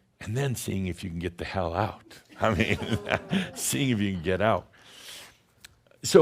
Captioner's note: chuckles